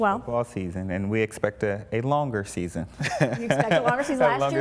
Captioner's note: laughs